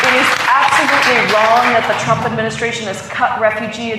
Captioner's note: applause